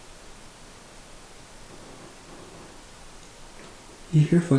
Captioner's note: faint footsteps